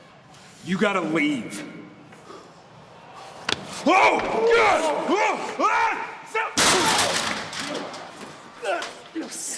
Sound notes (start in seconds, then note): 4.2 person yelling; 6.7 body thudding